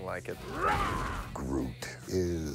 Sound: grunting

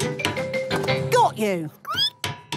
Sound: squeaking

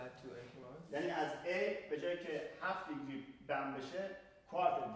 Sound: speaking in farsi

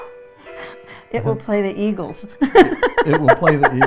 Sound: laughing

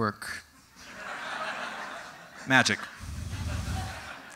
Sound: audience: Tittering

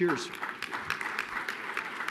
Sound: applause

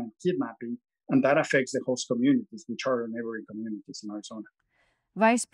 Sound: faintly speaking

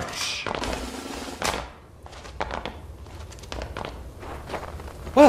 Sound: marching footsteps trail off

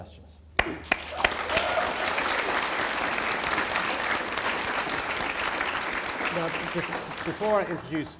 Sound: applause

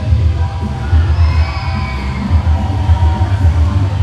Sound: crowd cheering

